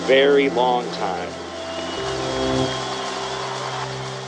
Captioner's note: applause